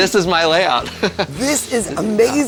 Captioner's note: laughs